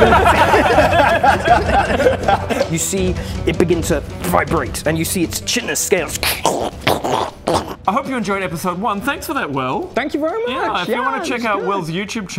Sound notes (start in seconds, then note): 0.0 sure...laughter; 6.7 krrch crhhchkh